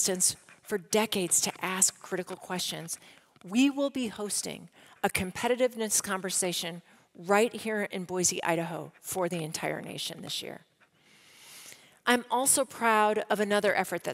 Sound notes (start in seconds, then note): none